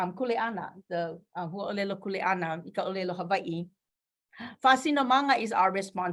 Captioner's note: speaking in foreign language